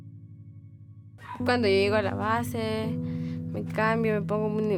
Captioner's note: speaking in Spanish